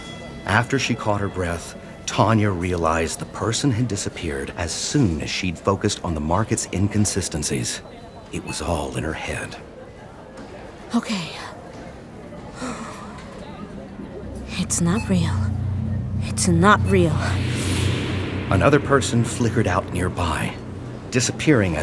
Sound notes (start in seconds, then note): 12.6 she exhales